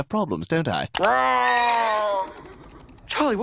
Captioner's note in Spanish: La criatura ruge; los caballos relinchan